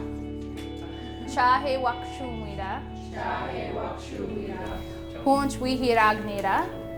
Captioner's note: reciting in Ho-Chunk